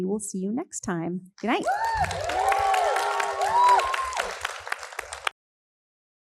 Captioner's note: all applauding and cheering